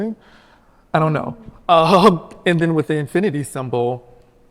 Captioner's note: chuckles